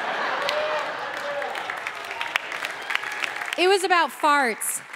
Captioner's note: audience laughing